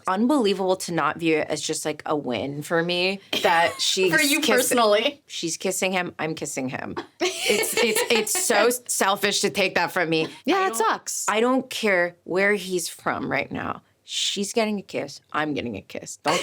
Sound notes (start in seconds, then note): 3.4 laughing; 7.0 laughing